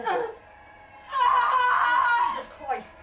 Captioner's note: Sarah screams in agony